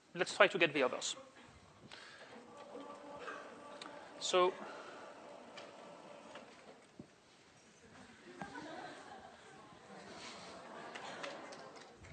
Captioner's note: laughter